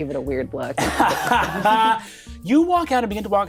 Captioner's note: all laughing